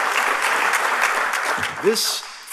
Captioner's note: applause